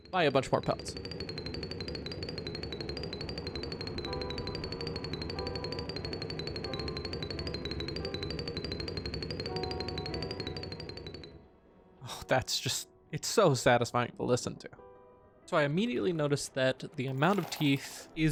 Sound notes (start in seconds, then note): 1.0 gameplay audio & music